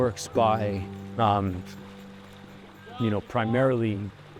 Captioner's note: water splashes faintly